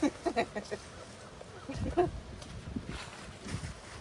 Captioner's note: laughs